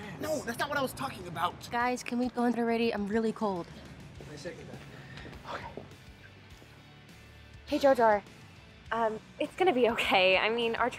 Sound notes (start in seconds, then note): 5.2 whispers to himself